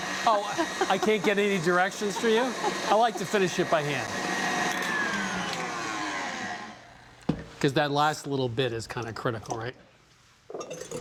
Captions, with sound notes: - Oh, I can't get any directions through you? - (laughs) - I like to finish it by hand. (mixer stops whirring) Because that last little bit is kind of critical, right?